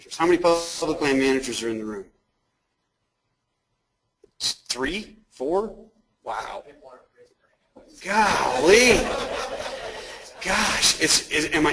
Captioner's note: audience talking and laughing